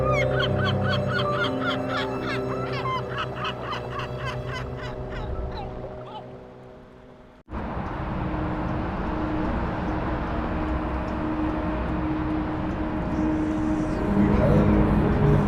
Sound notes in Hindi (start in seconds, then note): 2.7 हंसी; 3.3 रोने की आवाज़